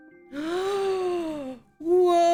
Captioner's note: gasp